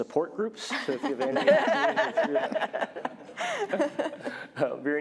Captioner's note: laughter